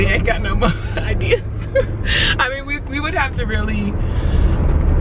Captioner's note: laughing